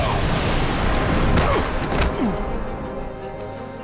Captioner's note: grunting